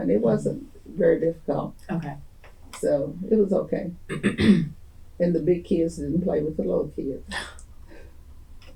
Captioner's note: laughter